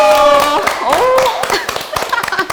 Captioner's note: clapping like seals